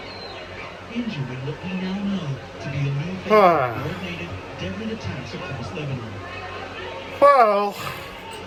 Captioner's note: TV plays in background